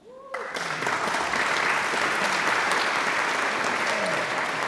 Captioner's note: audience applauds